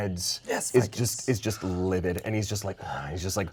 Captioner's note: sighs